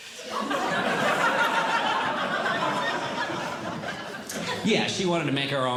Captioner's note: audience Laughing